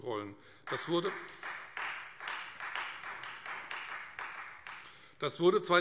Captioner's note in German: Beifall Freie Demokraten